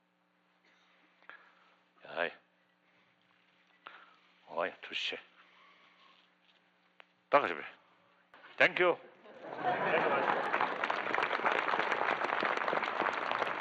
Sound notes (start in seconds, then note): 10.8 laughter; 12.3 clapping